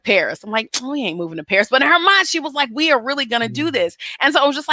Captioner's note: sucks teeth